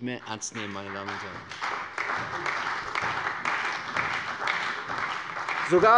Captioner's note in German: Beifall bei der CDU und dem BÜNDNIS 90/DIE GRÜNEN